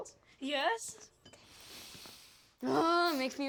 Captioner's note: sniffs